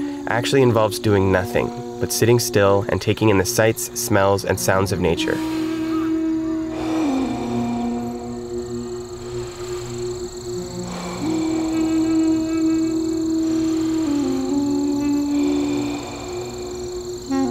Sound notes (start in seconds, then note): 5.3 deep breathing in and out; 5.8 peaceful music